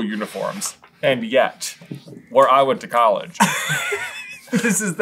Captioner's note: laughter